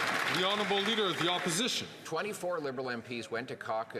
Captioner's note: some Applause